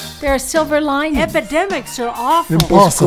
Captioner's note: podcast Voice